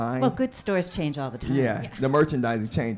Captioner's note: audience laughs